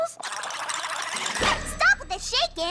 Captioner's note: rattle!